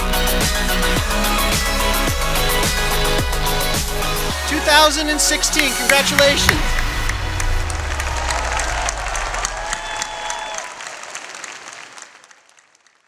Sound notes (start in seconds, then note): 7.0 clapping